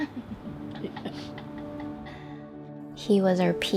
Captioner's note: laughing